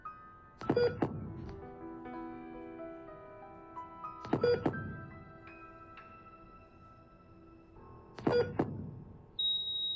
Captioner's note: heartbeat monitor beeping steadily; long high-pitched tone indicating heartbeat has stopped